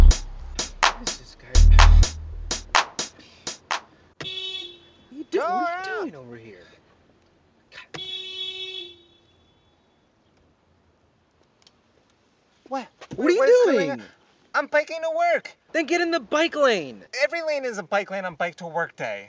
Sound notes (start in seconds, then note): 4.2 horn honk; 7.7 longer horn honk